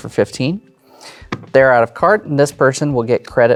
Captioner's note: smacks table